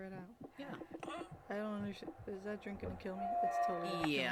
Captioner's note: internal pain noise